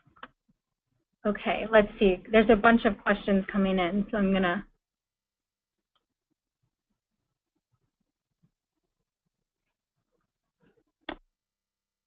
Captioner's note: pause